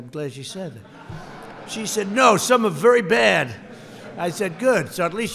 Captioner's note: laughter